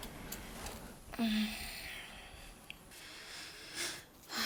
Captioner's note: sighs